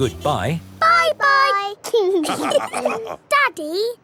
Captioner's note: all laughing